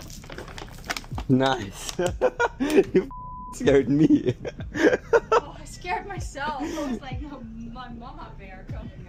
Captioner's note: laughter